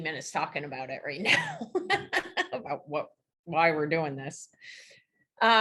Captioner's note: laughs